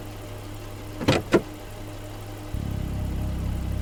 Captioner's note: none